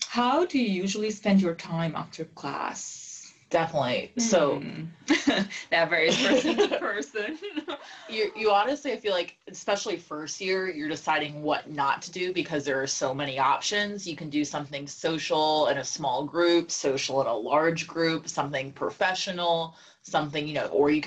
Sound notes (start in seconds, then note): 6.1 laugh